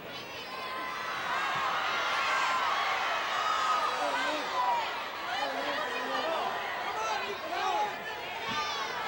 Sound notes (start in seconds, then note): 1.0 audience cheering; 2.0 wrestlers chattering